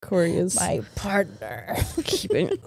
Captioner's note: laughs